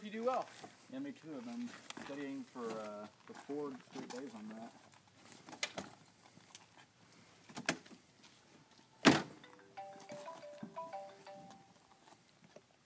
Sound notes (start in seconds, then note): 8.3 trunk closes; 9.4 phone rings